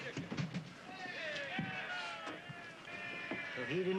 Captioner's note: cheering